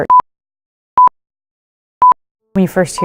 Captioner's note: heart monitor beeping